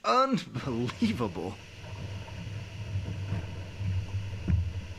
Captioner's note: water hissing